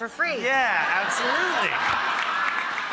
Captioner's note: audience laughing